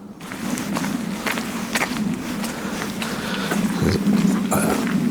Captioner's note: footsteps